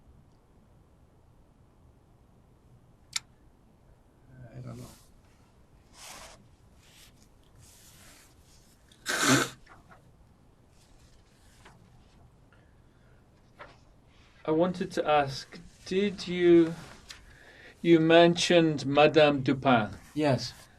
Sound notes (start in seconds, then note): 0.0 pauses 10 seconds; 8.7 wiping nose